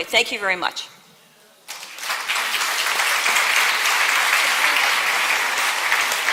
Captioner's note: applause